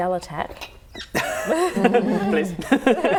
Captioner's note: laughing